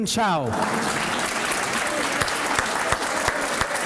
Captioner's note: applause